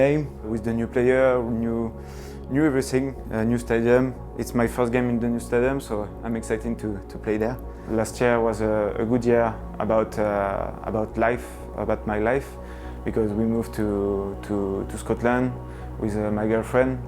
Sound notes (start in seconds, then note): none